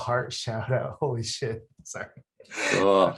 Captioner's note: laughs